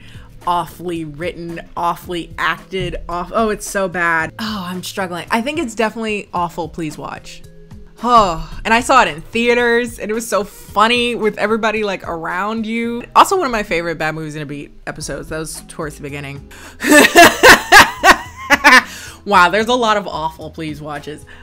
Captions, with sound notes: awfully written, awfully acted, oh it's so bad. Oh, I'm struggling. I think it's definitely awful, please watch. (groans) And I saw it in theaters and it was so funny with everybody around you. Also, one of my favorite Bad Movies and a Beat episodes. That was towards the beginning. (laughs) Wow, there's a lot of awful, please watches.